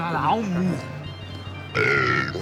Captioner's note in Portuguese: arrotando